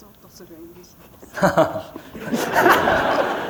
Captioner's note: laughter